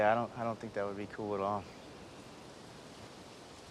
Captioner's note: none